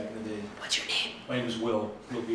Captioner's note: whispers